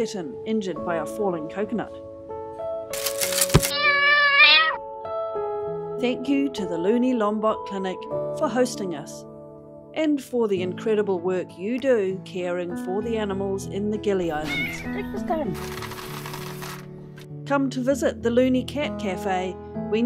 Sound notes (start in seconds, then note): 2.9 branches breaking; 3.6 cat cries; 3.7 thud; 9.1 uplifting music; 14.3 cat meow; 15.4 biscuits rattle